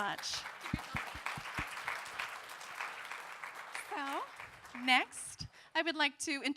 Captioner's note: applause